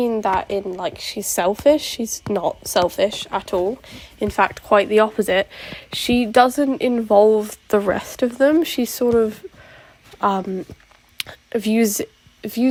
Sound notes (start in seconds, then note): none